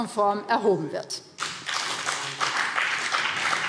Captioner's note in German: Beifall BÜNDNIS 90/DIE GRÜNEN